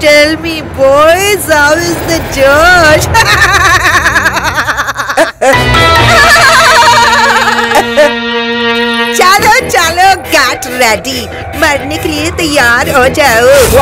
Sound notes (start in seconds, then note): 3.1 Giggling